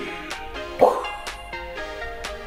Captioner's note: bang